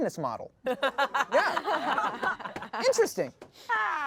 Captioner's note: everyone laughs